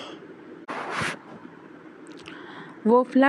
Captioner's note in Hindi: नाक से की जाने वाली आवाज़